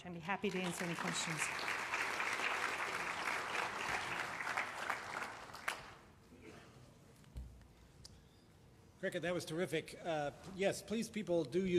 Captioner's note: applause